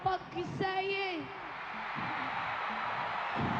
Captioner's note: cheering